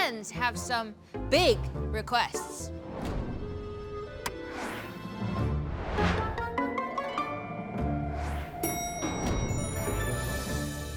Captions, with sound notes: have some big requests. [bell dings]